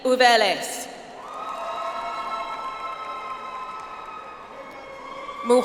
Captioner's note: audience applauds